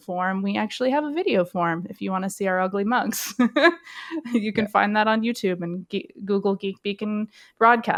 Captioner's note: laughs